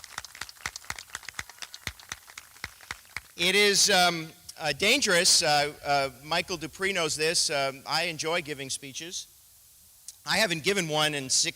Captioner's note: applause